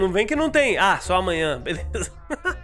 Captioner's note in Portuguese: risos